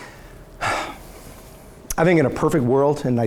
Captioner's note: sighs